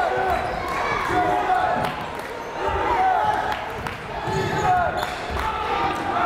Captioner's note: crowd chanting defense